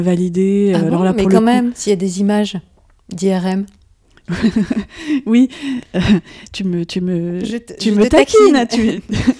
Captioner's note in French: Rires